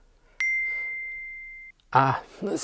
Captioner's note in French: Ding